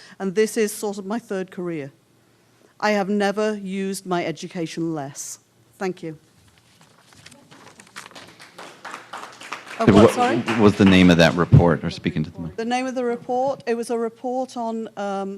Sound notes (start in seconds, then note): 7.4 applause